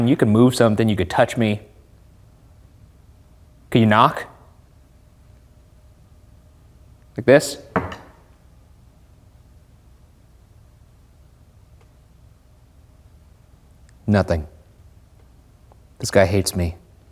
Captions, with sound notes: You can move something. You could touch me. Can you knock? Like this? (fist knocks) Nothing! This guy hates me.